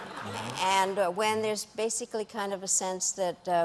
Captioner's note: laughter